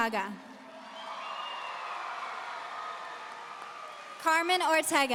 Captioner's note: audience cheering